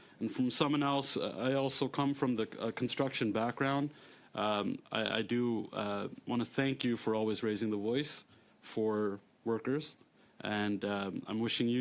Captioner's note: speaking French